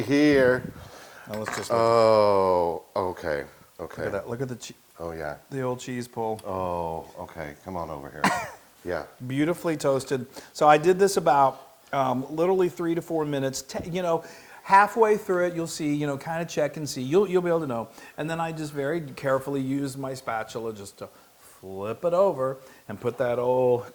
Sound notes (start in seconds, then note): 8.2 cough